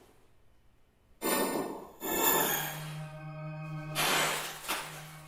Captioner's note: humming, whooshing sounds